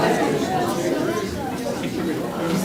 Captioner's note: crowd talking indistinctly